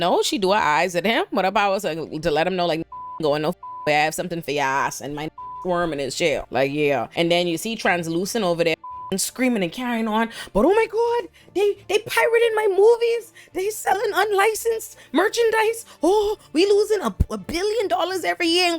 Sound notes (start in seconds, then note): 2.8 beep; 5.2 beep; 8.8 beep